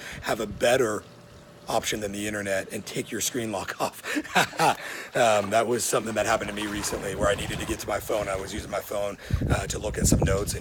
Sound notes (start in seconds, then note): 3.8 chuckling